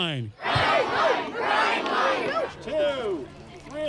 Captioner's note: crowd chanting